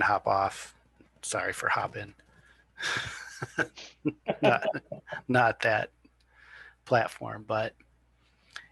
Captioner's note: laughter